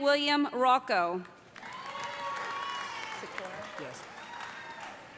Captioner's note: cheers and applause